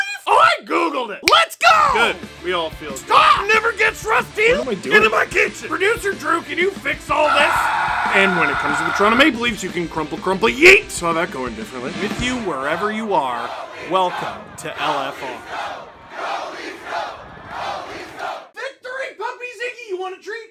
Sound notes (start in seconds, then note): 7.2 screaming